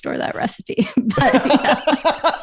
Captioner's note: laughter